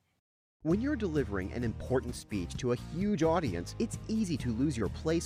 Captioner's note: voiceover